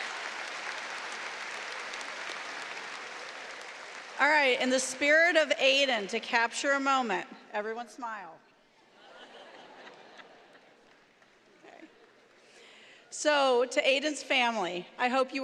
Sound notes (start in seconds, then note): 2.7 applause